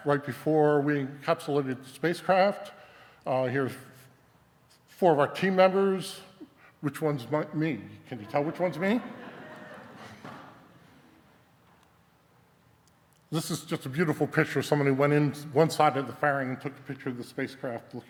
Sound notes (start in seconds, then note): 8.2 audience laughing